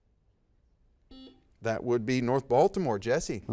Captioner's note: buzzer dings